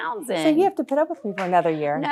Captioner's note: audience applauding